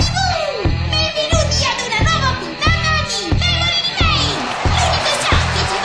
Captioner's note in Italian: applausi